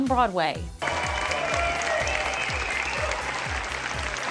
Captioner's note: applause